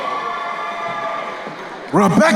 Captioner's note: crowd cheering